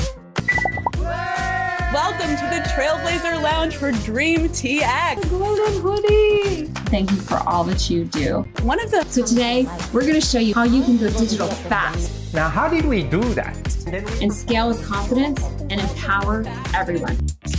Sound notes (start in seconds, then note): 0.9 people cheering